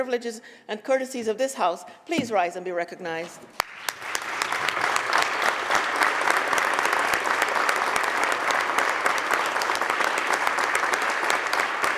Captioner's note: applause